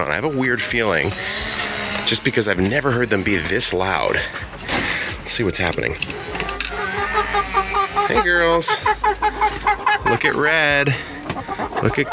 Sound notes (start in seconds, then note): 6.9 chickens squawking